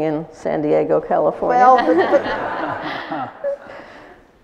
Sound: laughter

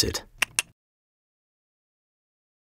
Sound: clicks tongue

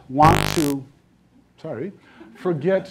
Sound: buzzing

